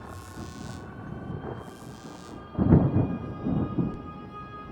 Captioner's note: sirens and electricity; dreamy electronic music